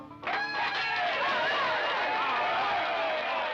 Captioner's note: cheering